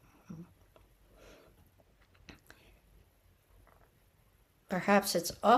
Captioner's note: pause